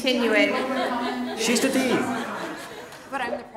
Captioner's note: laugh